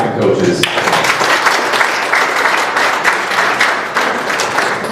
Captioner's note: applause